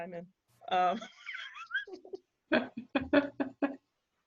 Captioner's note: both laughing